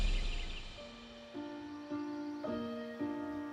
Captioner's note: birds chirping